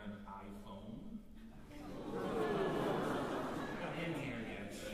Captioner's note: crowd exclaims